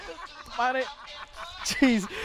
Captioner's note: laughing